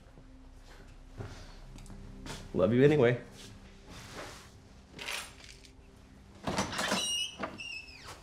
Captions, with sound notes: I love you anyway. (keys rattling)